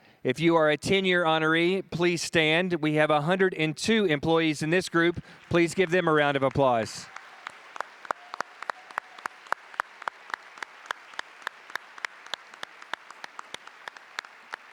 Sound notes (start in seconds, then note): 7.2 audience applauding